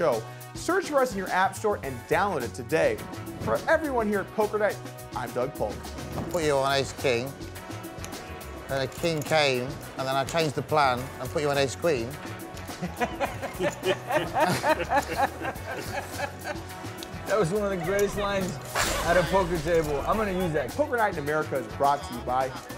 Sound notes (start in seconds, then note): 12.7 laughing